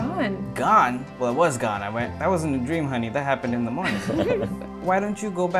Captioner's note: laughter